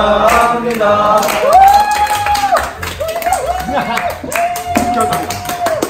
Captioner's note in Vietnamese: vỗ tay nồng nhiệt